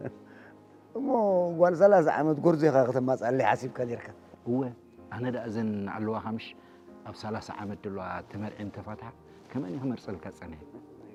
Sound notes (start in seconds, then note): 0.7 laughs